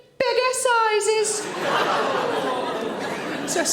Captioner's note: audience laughing